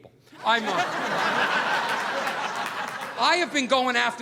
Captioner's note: audience laughing